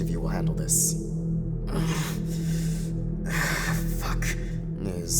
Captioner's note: groans in pain